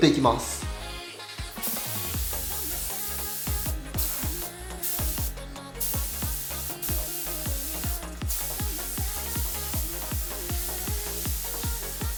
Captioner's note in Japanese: 塗装音